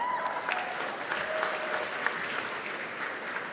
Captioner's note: applause